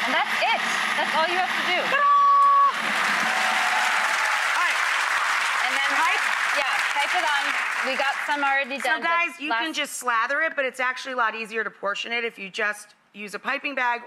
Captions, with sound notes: And that's it, that's all you have to do. Ta-da. (audience applauding) Alright. And then, Pipe? Yeah, pipe it on, we got some already done. So guys, you can just slather it, but it's actually a lot easier to portion it if you just use a pipping bag